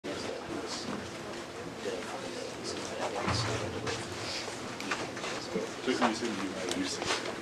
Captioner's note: background chatter